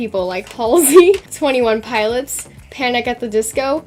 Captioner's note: laughs